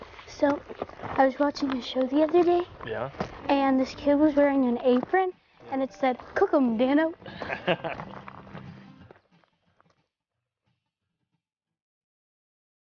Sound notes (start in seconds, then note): 7.2 laughter